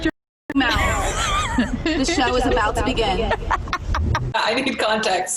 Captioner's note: laughs